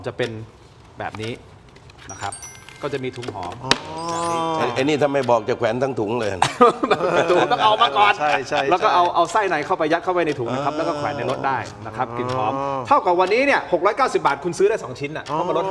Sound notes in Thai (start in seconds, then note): 6.2 เสียงหัวเราะ